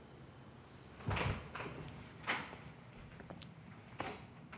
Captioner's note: door clunking